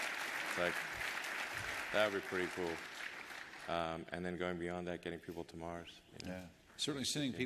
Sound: applause

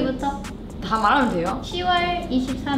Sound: speaks Korean; speaks in Korean

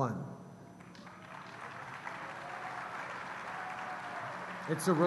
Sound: cheers & applause

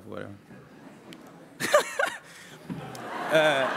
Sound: laughter

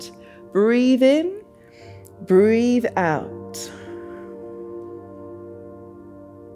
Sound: exhales; inhales

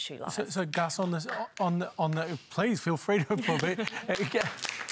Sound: applause

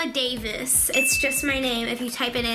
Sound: ding

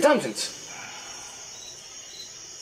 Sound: groans

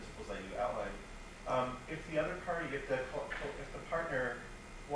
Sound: stuttering

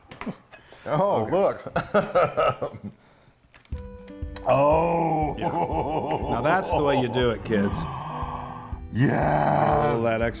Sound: laugh

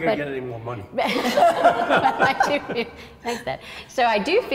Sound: all laugh

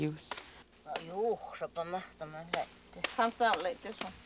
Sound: woman speaks in native language

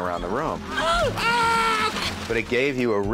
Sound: yells

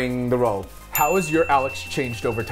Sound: bell dings

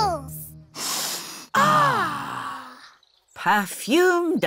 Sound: all sniff

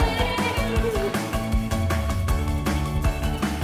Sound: yelling

